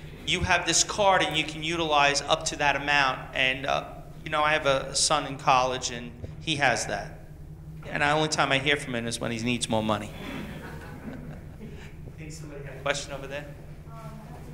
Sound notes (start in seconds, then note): 10.0 laughs